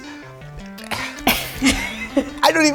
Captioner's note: all laugh